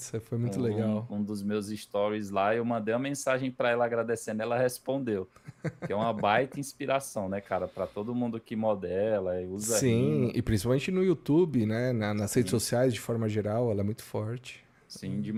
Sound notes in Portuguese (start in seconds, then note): 5.4 risadas